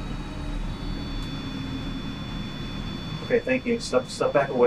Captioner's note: device ringing